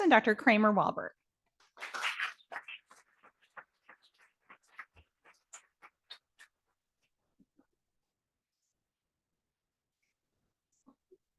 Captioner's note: audience applauding